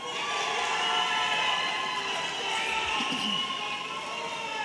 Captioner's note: audience cheering